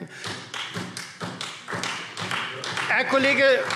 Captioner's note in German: Beifall Freie Demokraten